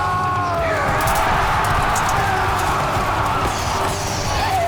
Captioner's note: battle Cries